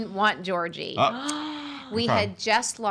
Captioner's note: gasping